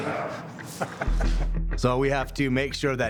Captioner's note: laughing